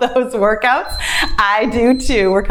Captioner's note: timer beeps; laughs